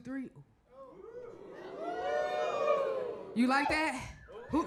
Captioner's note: crowd cheers